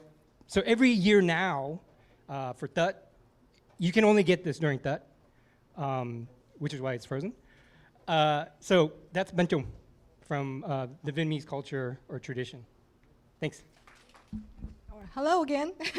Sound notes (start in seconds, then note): 9.0 non-english speech; 15.7 laughs